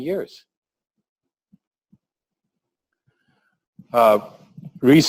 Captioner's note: pause